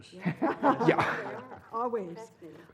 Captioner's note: laugh